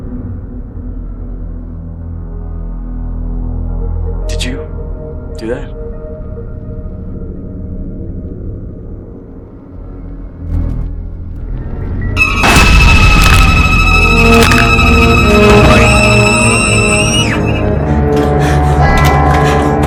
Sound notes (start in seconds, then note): 13.2 neck snaps; 16.4 Tiffany screaming